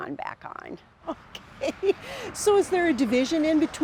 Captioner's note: laughing